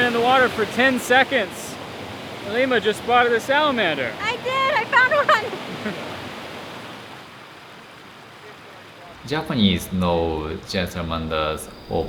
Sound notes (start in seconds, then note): 6.6 water gushing